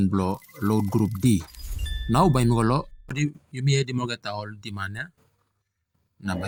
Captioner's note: english AI voice overlay